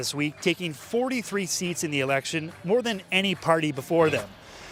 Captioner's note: cheers